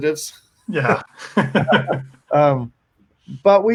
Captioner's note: both laughing